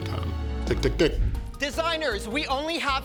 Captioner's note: chuckles